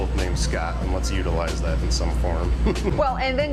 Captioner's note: laughs